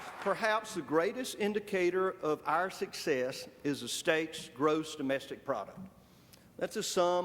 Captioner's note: applause